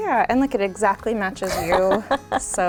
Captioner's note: laughing